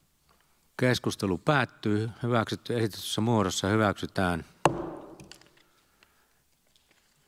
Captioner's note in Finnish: Nuijan kopautus